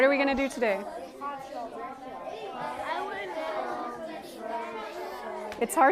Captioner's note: students discussing with each other